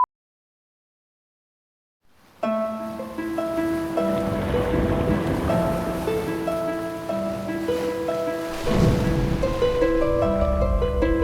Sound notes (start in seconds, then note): 2.2 water whooshing; 2.2 peaceful music